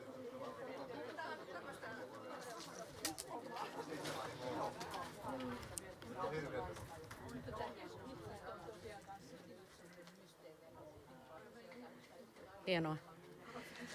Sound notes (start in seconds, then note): none